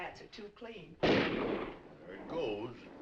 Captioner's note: guns firing